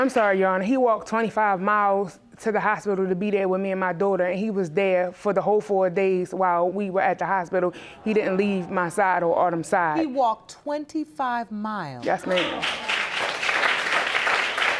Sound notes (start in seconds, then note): 12.1 audience applauding